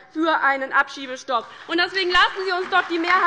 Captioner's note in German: Beifall bei der LINKEN und der SPD